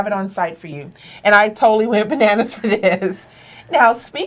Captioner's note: laughing